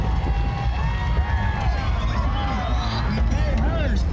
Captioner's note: crowd cheering